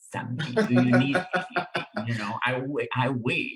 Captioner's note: laughs